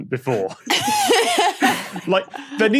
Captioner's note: guests laughing